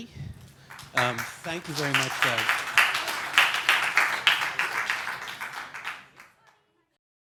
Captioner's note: audience applause